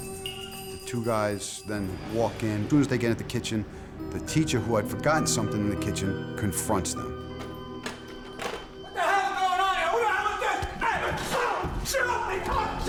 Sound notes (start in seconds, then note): 6.8 object clattering